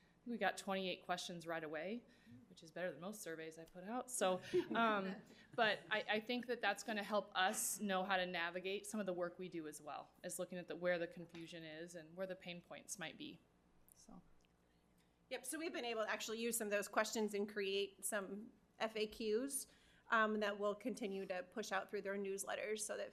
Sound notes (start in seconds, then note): 4.4 laughing